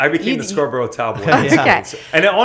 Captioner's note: laughs